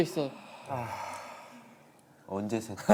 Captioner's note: sigh